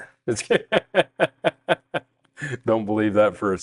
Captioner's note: laughing